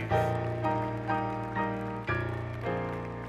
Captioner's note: applause